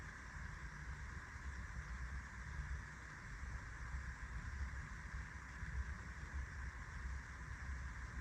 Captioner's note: air conditioning whirring, subtle sounds